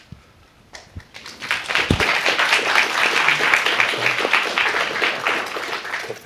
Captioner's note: applause